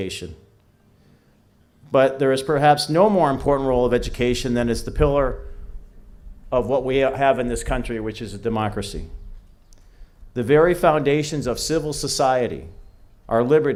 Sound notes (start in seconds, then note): none